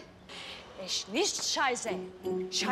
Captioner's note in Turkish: Almanca konuşma